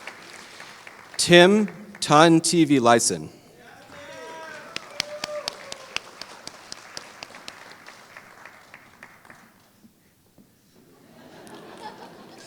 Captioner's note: applause